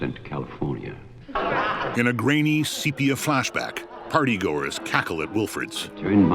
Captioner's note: laughing